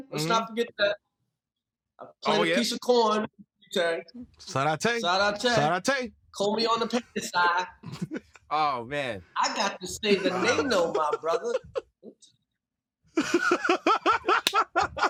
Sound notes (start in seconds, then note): 7.8 laughter; 11.5 laughter